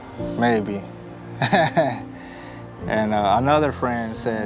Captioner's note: chuckles